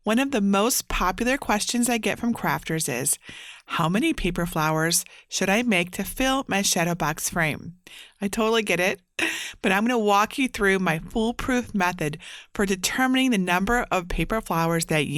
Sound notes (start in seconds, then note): 9.2 chuckling